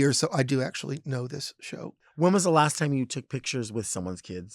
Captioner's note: none